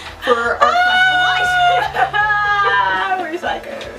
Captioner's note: laughing